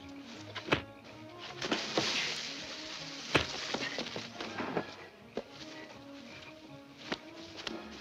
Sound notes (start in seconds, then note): 0.1 leaves rustling; 0.6 fists thuds